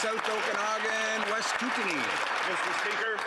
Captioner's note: applause